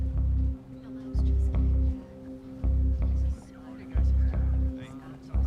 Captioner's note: people chattering in background